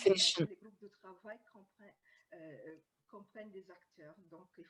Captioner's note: speaking french